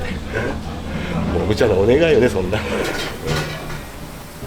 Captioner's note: laugh